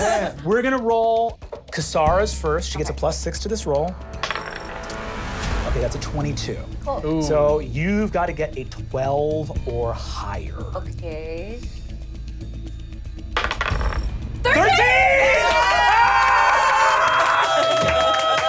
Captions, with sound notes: - We're gonna roll Ka-sa-ra's first. She gets a plus six to this roll. Okay, that's a 22. - Cool. - So you've gotta get a 12 or higher. - Okay. 13! - 13! (cheering)